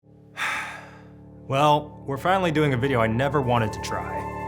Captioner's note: sighs